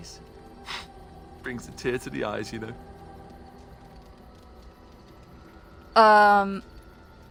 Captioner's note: sniffs